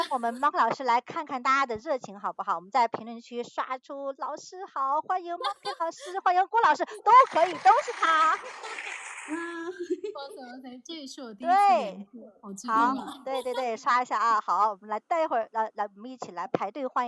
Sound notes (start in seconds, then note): 9.6 laughs